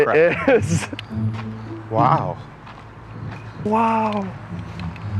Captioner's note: laughs